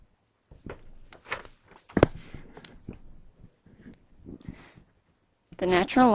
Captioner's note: silence